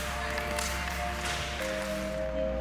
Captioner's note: clash of hockey sticks; hockey sticks hitting together; ice skates skidding on ice